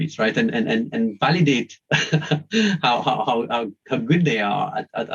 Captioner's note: chuckles